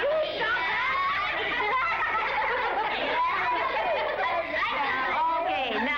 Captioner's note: laughter